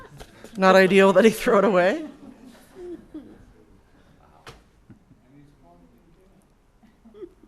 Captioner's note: laughter